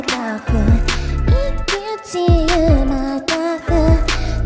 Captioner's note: sighs